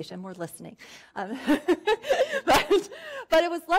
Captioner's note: laughing